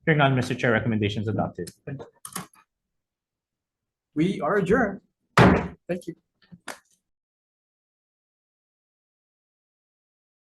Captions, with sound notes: Hearing none, Mr. Chair, recommendation is adopted. - Thank you. We are adjourned. (gavel thudding) Thank you.